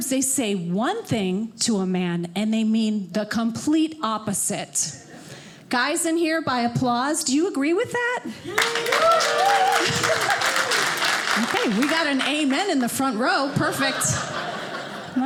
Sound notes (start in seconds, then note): 8.3 audience applauding